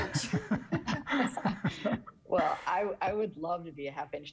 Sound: everyone laughing

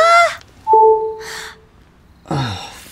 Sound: phone noise

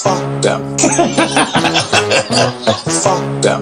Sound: evil laughter

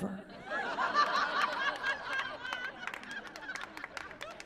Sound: laughing

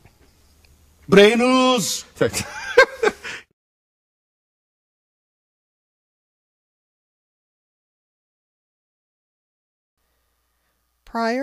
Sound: laughter

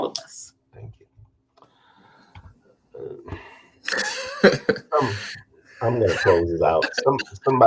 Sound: laughter

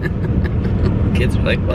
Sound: chuckling

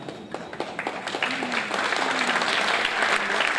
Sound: applause

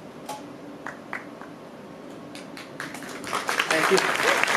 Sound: applause

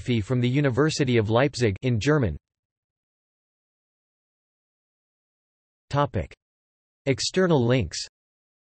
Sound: in German; in German

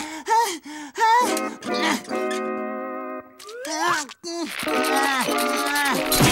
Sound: panting; grunting

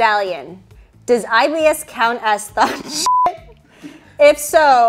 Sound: beep

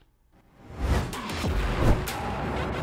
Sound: upbeat music; whooshes

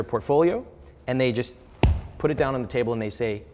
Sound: smacking

